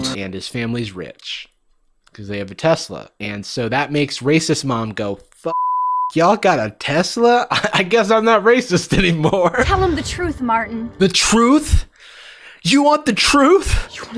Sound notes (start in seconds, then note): 5.5 beep; 9.4 laughs